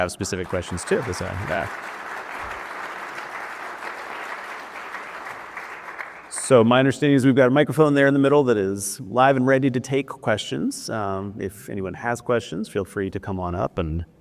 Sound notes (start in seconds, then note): 2.4 applause